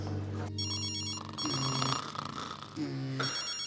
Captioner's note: Daniel snoring; phone ringing